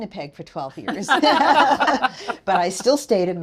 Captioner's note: attendees laughing